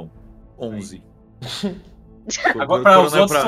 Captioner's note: riso